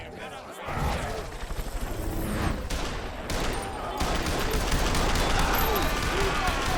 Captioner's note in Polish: ramiã robi klang jak helikopter